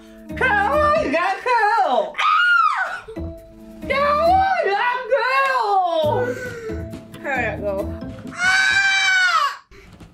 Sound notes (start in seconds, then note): 6.3 breathes